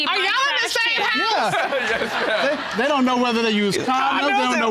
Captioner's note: all laughing